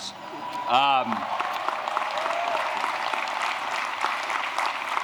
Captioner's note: applause